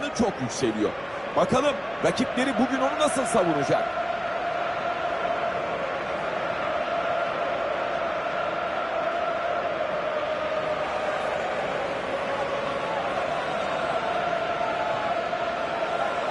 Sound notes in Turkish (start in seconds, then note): 5.1 coşkulu tezahürat; 9.7 coşkulu tezahürat